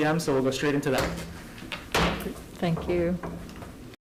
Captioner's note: gavel bangs